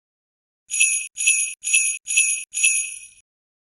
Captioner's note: jingles